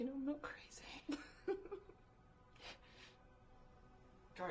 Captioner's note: Beth chuckling